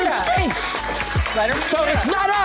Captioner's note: applause